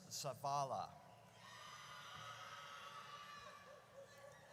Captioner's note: audience cheers